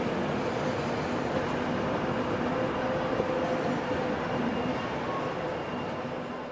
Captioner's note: train arrives